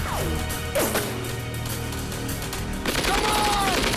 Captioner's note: guns firing